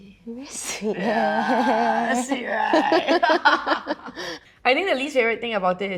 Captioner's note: laughing